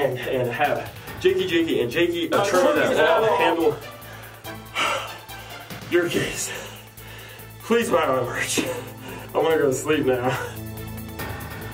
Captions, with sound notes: And have Jakey, Jakey and Jakey ATTORNEYS AT LAW handle... *exhales* your case... please buy my merch. I'm gonna go to sleep now.